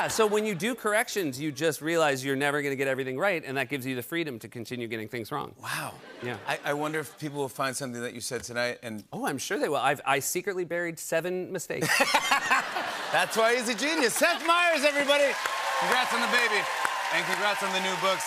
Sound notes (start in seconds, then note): 11.8 laughter; 12.8 cheers and applause